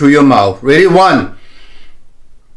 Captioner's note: inhaling and exhaling